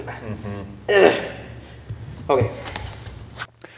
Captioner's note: grunting